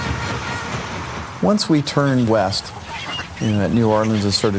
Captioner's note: geese sounds